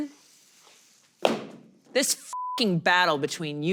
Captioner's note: sign thudding; beep